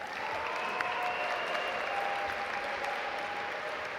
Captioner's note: audience applaud